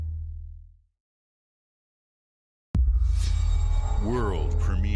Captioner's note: transition sound